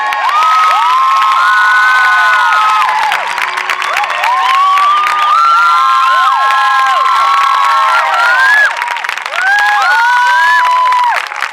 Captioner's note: cheering